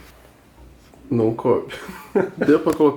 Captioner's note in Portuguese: risos